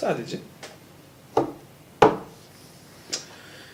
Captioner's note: knock knock